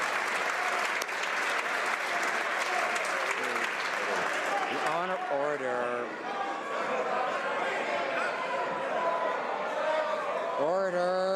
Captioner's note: some Applause